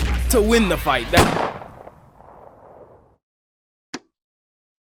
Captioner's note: gun fires